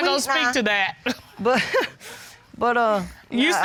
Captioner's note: chuckles